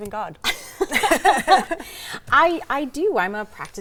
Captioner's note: laughs